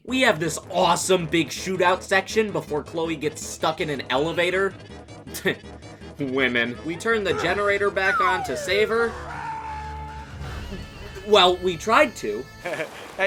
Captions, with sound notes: We have this awesome big shootout section before Chloe gets stuck in an elevator. *scoffs* …Women. We turn the generator back on to save her, *stammers* Well, we tried to.